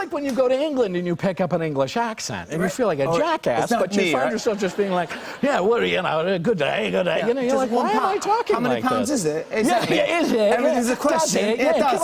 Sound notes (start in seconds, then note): 3.9 British accent; 7.6 British accent